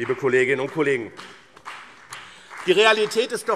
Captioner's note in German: Vereinzelter Beifall BÜNDNIS 90/DIE GRÜNEN und CDU